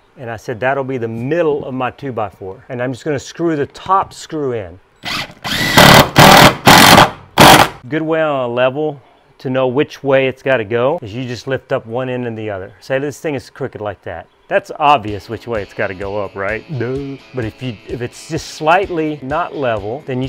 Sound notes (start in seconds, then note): 5.0 drill whirring